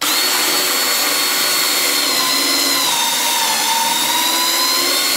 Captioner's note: drill whirring